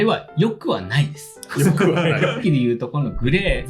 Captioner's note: laughs